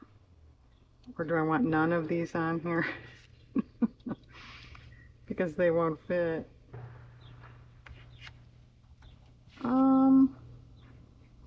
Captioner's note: laughs